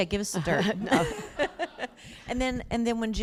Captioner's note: laughter